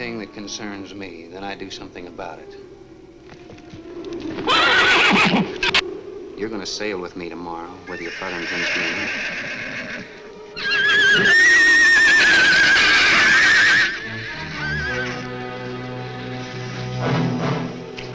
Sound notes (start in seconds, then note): 3.3 horse neighs; 10.2 horse neighs wildly; 10.5 shrews screech; 13.8 ominous orchestral music